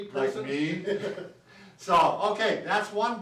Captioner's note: laughs